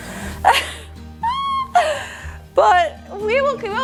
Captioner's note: laughs